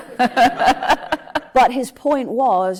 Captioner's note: laughs